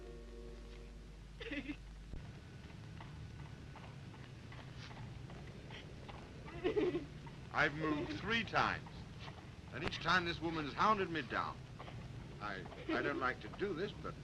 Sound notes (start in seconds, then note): 1.1 hooves clack; 1.4 Mildred sobs; 6.5 Mildred sobs